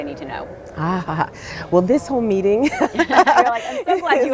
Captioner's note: laughs